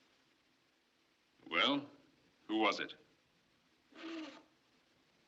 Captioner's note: blows Nose